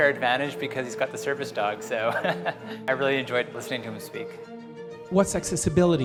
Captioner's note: chuckles